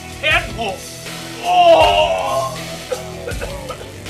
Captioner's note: throwing up noise